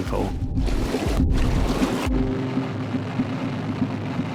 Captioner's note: water surges